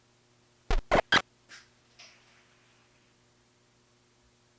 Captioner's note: static crackling